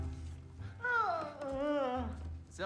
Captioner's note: yawn